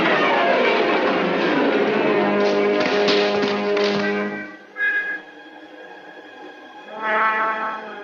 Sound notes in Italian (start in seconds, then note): 0.0 musica in sottofondo; 2.8 cade pesantemente